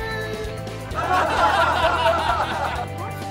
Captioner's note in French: rire